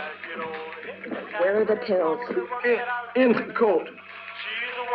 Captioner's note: song on radio - rockabilly continues; gasping; song on radio - rockabilly continues